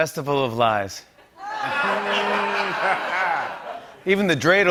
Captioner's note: laughter